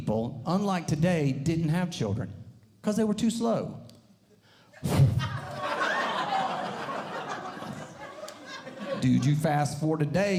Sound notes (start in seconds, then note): 4.8 thump; 4.9 audience Laughing